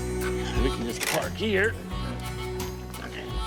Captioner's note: soft music; brake ratcheting